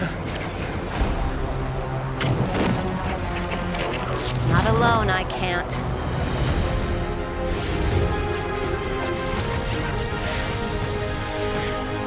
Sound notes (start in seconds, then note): 1.0 foreboding music; 7.3 whooshing